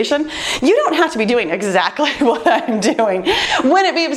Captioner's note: laughs